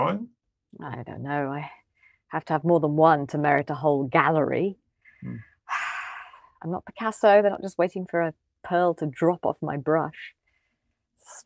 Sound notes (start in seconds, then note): 5.2 sighs